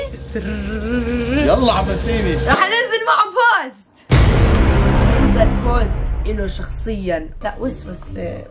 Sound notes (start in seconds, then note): 0.1 mimicking a drum roll; 4.1 dramatic boom sound